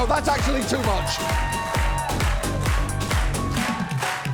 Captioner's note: audience cheering, clapping along to music